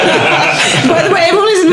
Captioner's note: laughing